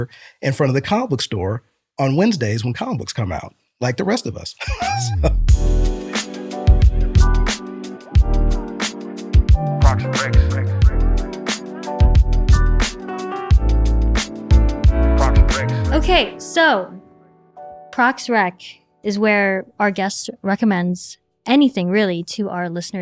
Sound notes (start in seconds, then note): 6.7 laughter